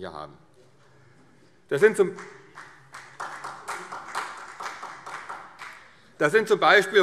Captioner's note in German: Beifall